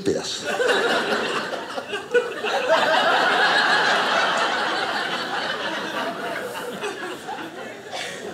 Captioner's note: audience laughing